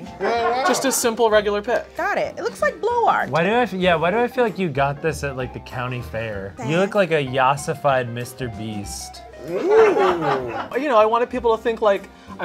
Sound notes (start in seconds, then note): 9.4 people laughing